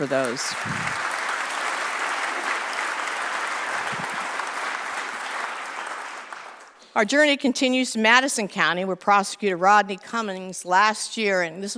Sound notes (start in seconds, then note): 2.2 applause